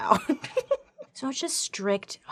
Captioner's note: laughing